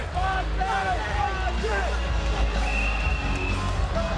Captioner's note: spectators cheering; hard-hitting rock music